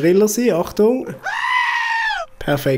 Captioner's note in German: anderer Schrei